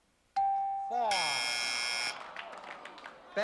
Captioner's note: buzzer